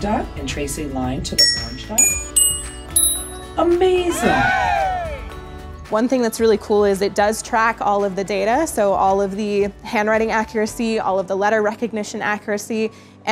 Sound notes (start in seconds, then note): 1.4 app dinging; 4.1 crowd cheering